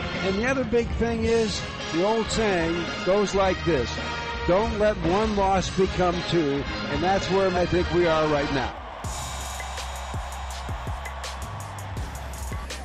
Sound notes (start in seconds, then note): 8.2 crowd cheering; 9.1 funky bass music